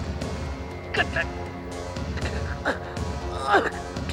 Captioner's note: grunting